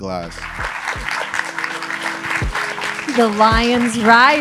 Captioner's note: audience applauding